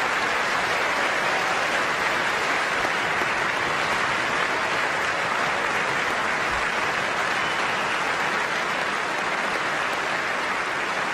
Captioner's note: cheers